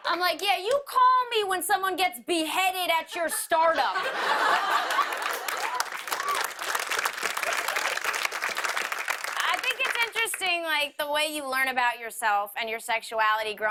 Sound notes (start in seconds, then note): 3.1 laughter; 4.5 applause